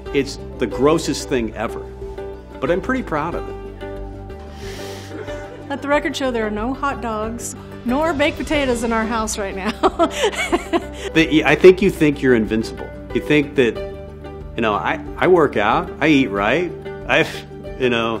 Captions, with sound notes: It's the grossest thing ever, but I'm pretty proud of it. - Let the record show there are no hot dogs nor baked potatoes in our house right now. (laughs) - I think you think you're invincible. You think that, you know, I work out, I eat right, you know?